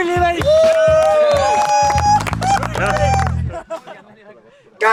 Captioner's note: cheering